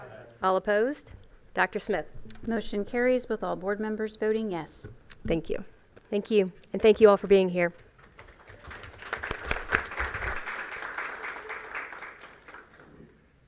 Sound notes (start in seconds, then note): 8.1 applause